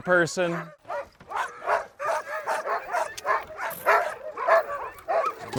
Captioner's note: dogs barking